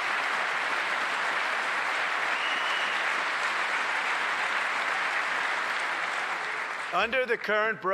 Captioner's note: applause